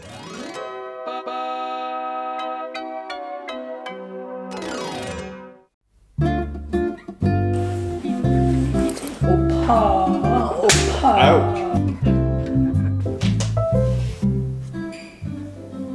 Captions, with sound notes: (upbeat music) (slow gentle music) - Ooh, oppa! (smacks) - Ouch. (slow gentle music)